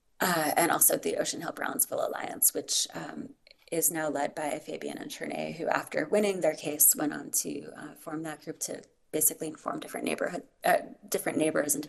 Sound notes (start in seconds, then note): none